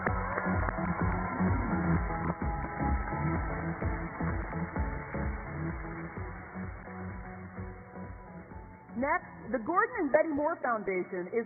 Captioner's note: cheers and applause